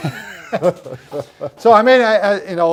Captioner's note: both laughing